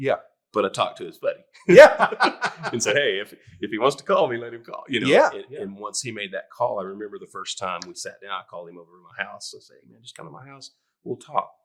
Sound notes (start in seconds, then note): 1.7 all laughing